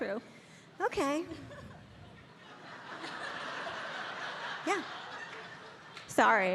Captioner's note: audience laughing